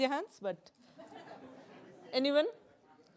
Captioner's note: laughter